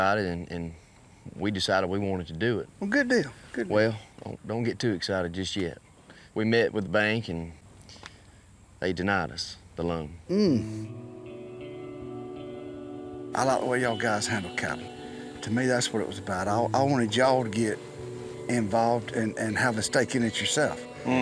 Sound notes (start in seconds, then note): none